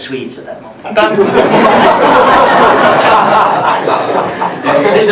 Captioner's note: laughter